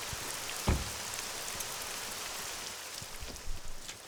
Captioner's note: car door slums